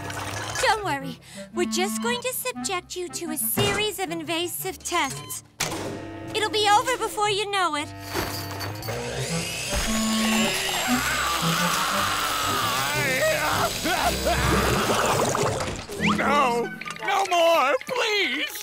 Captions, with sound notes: Don't worry, we're just going to subject you to a series of invasive tests. It'll be over before you know it. [drilling noises] [screaming] No! No more! Please!